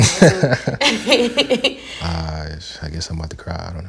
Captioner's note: both laughing